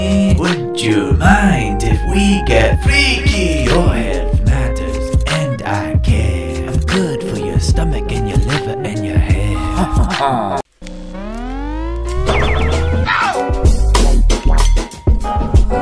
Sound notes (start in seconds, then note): 9.6 chuckling; 11.0 funky electronic music